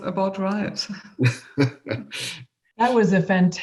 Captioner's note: laughs